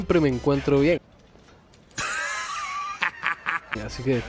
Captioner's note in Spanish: risa sarcástica